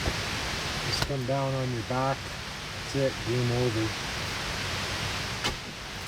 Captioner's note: smack